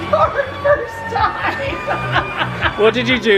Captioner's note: laughing